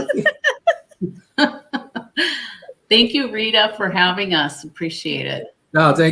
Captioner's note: laughter